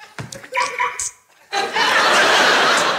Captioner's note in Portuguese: bipe de alarme